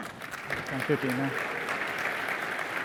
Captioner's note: applause